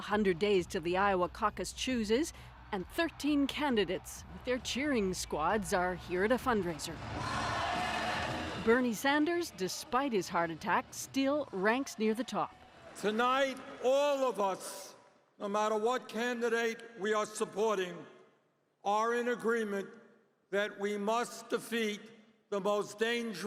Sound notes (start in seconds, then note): 1.9 cheers and Applause